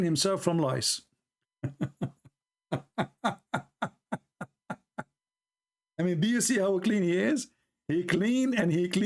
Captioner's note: Ketawa